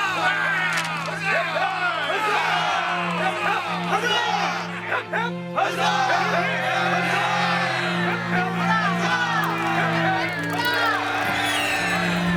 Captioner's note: crowd cheering